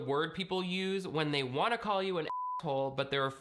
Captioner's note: beep